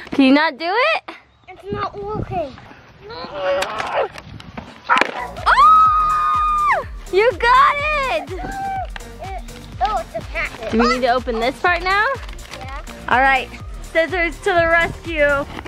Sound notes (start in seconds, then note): 3.0 grunting; 5.4 cheering